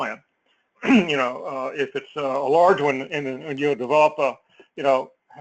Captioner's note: cough